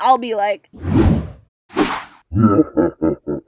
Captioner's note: whoosh whoosh